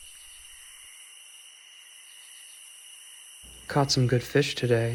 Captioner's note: insects chirping